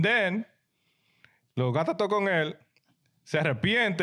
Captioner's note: speaking In Foreign Language